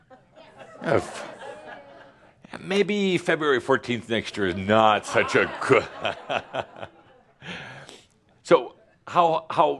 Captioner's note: laughs